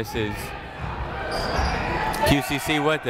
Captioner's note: people shouting in the crowd